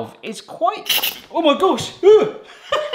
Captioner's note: steam hissing; laughs